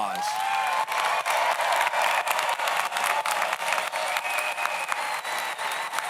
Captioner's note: audience applauds; audience cheers